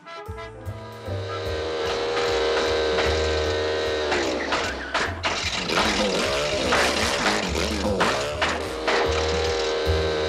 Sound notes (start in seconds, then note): 0.2 motor whirs; 2.8 motor sputters; 9.4 motor whirs